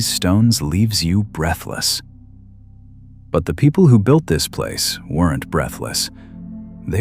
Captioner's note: breath